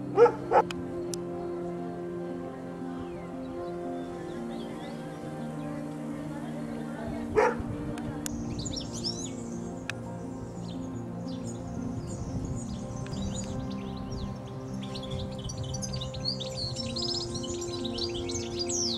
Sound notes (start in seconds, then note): 8.0 bird Song